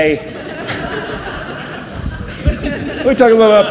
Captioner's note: audience laughs